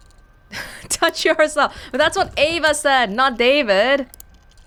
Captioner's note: chuckles